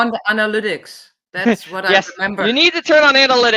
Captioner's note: chuckles